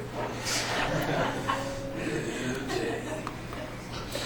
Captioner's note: students laughs